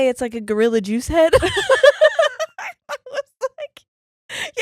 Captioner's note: laughing